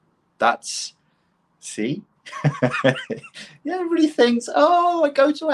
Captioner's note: laughs